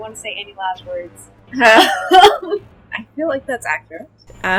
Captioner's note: laughing